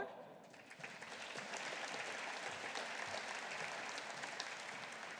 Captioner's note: audience applauding